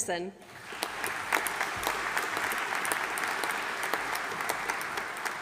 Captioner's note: audience applauding